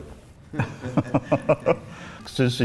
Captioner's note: laughs